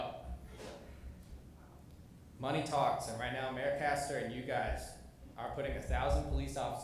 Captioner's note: off microphone